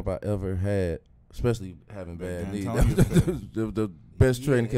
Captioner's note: laughs